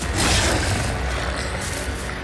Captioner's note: dramatic music; growling; spear thudding